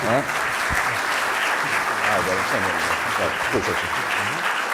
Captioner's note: audience applause